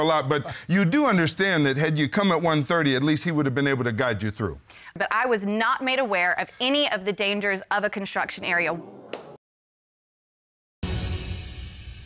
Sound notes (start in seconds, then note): 8.3 audience murmuring